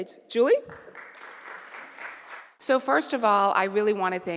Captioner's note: applause